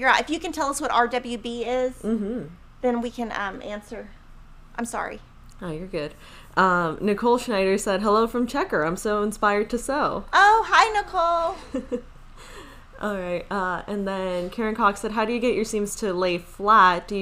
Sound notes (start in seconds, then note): 11.4 laughs